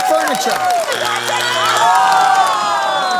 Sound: buzzer sounds

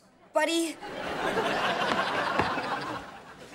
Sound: laughing

